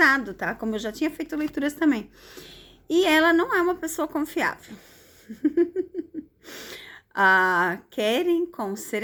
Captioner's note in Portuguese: risadas